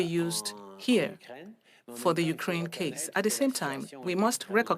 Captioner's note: speaking French